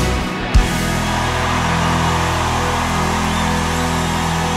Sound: crowd cheering

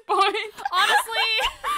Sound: laughs

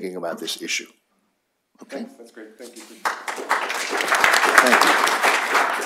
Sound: applause

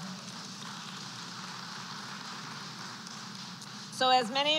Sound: applause

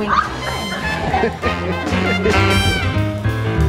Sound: laughter; upbeat instrumental

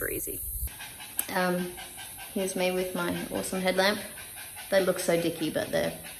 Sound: dog pants loudly

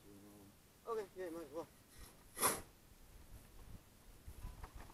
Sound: shoveling sounds

